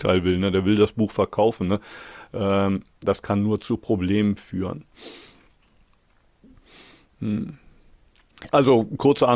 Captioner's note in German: schnauben